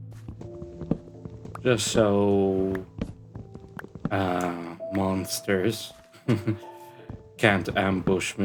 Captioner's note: chuckle